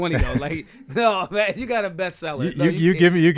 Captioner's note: laughing